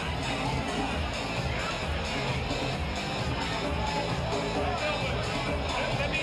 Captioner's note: energetic music; guests chattering